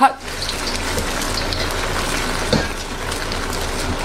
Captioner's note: egg sizzling